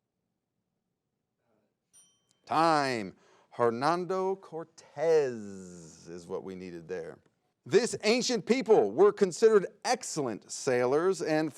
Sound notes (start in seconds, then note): 1.9 bell rings